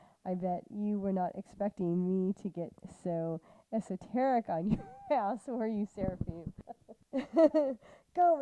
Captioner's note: laughter